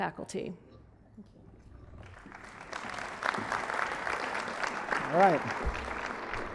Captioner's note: applause